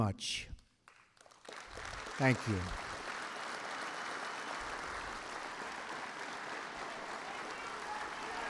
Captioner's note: applause